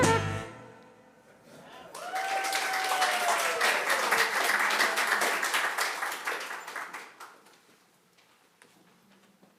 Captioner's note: music abruptly stops. applause